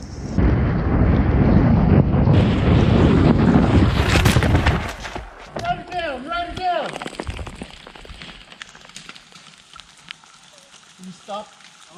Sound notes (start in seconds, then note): 0.0 sound of wind rushing past bike; 4.2 crashing